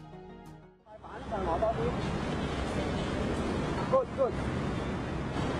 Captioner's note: indistinct chatting